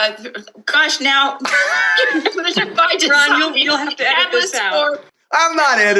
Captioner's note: laughter